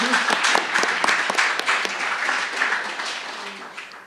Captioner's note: applause